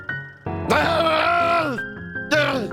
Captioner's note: frustrated grumbles